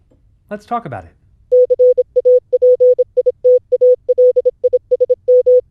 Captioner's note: morse code beeping